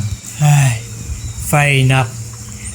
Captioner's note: sighs